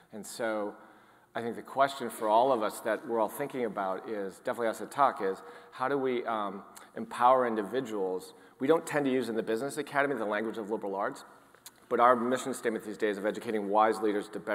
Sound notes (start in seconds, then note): none